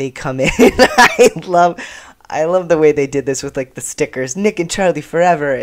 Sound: laughter

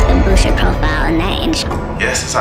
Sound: clock noise

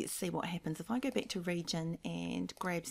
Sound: mouse clicking

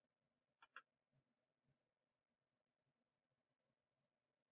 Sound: mouse clicking

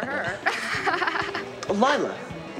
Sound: laughing

